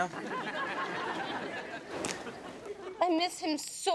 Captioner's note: audience laughs